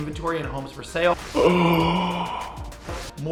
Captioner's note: gasp!